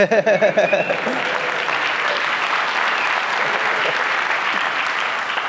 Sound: applause

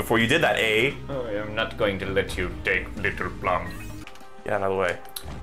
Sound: deep voice

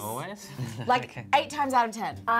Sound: laughs

